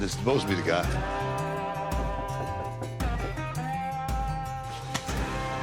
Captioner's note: knocking